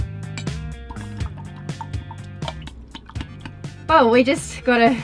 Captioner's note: tinkling spoon